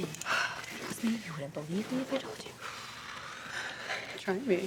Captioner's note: sighs